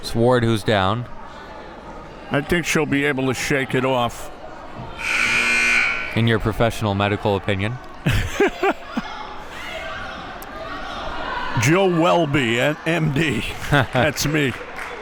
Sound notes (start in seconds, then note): 5.0 buzzer rings; 8.0 laughs